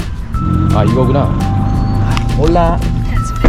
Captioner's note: taxi call